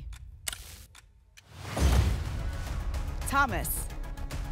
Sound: thump; whoosh

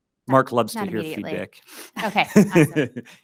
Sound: laughs

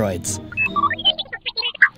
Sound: More R2-D2 agreement noises

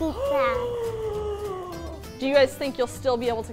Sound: gasping

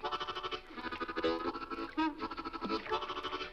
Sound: water splashes

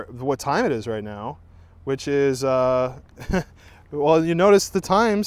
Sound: chuckling

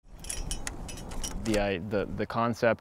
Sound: carabiner clinking

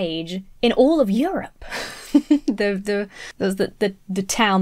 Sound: laughs

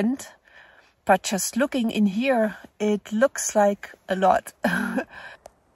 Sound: laughs

